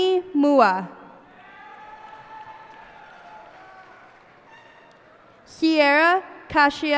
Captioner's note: cheers and applause